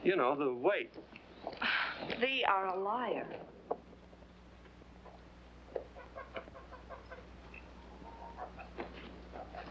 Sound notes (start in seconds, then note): 5.6 chickens clucking